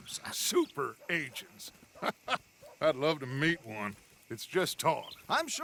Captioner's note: laughs